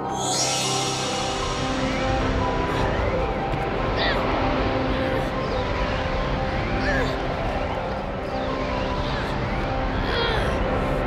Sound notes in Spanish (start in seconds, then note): 0.8 silbido; 4.5 gimiendo